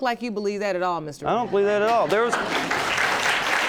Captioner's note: audience clapping